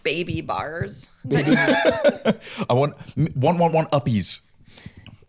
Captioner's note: laughs